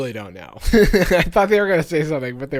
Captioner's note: laughing